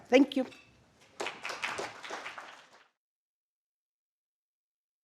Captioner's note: applause